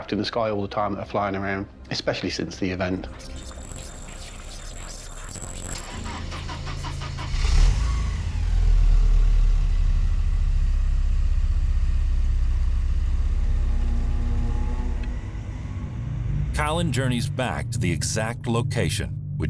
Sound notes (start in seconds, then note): 6.1 car engine starting; 13.5 car engine roaring